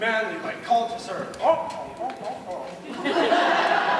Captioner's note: grunts; laughter